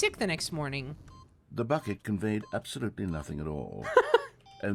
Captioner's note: laughs